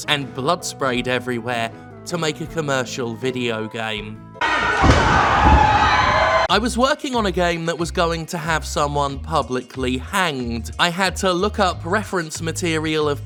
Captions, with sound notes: and blood sprayed everywhere to make a commercial videogame. [slap of chair, thump, crowd cheers] "I was working on a game that was going to have" "someone publicly hanged." "I had to look up reference material"